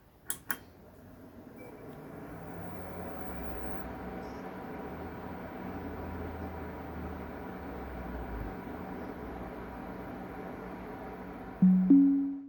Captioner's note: pc fans spinning; windows 11 startup sound